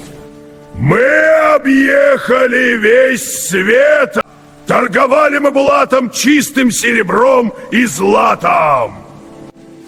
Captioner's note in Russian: крик